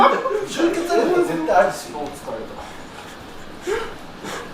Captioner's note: laughs